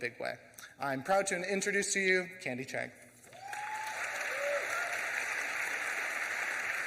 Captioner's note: audience applauds; audience cheers